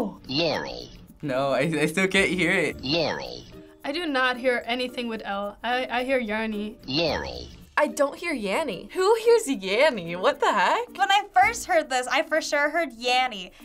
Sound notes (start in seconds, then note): 0.4 voice-over; 6.7 voice-over